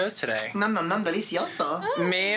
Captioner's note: speaking Spanish